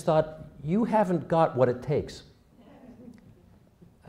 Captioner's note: laughter